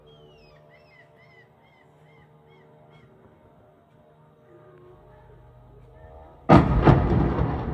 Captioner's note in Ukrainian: звук дрона; вибух